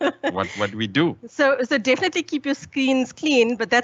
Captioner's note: laughs